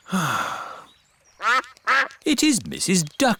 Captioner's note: sighs; quacking